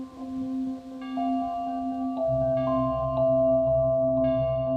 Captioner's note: thunder rumbling; bell tolling